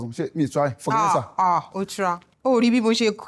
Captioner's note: sarcastically